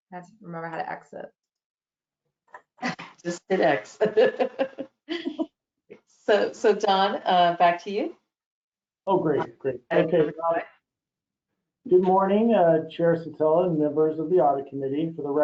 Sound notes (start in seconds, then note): 4.0 laughter